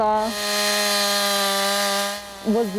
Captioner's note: chainsaw buzzing